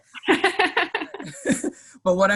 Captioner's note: laughing